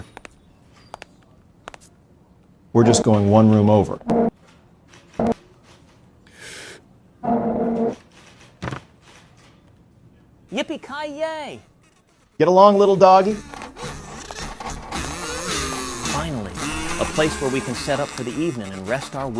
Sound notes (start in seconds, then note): 0.0 ted cruz's delicate footsteps echo; 4.1 wheelchair screeches across the floor; 6.2 ted inhales